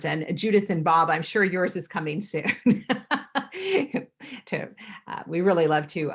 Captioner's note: laughs